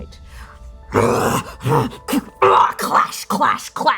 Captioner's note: bestial roaring, growling